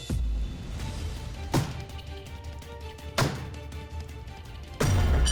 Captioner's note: pounding